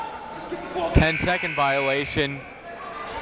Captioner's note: whistle; buzzer